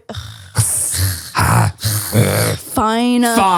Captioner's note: both groaning